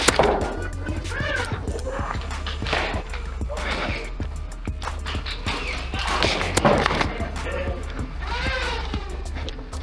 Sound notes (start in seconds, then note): 0.0 motors revving and rapid thunking of darts from multiple blasters and footsteps; 2.1 occasional thunking of darts and heavy breathing; 5.0 frightened yelp; 8.2 motors revving and footsteps